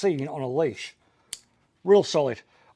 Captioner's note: buckle clicks